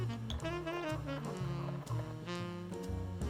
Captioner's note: whisking